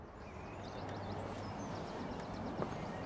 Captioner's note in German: Vogelgezwitscher